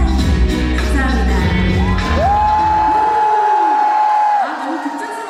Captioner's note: 환호